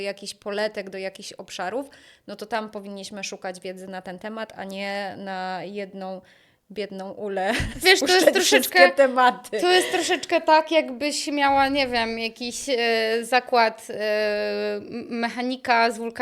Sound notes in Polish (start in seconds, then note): 9.6 śmiech